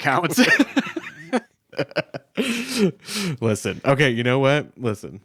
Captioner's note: both laughing